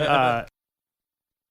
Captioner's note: laughs